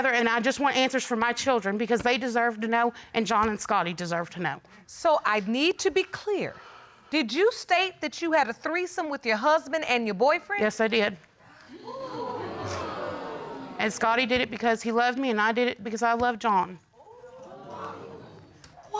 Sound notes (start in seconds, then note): 11.7 audience exclaiming; 17.2 audience exclaiming